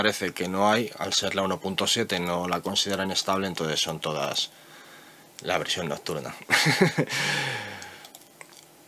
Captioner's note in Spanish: risas